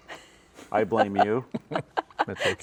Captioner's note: laughing